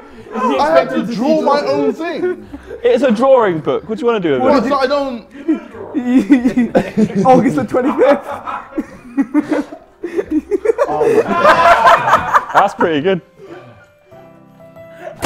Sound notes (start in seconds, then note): 9.8 laughs; 10.9 Sidemen laughing